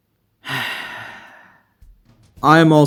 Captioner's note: sigh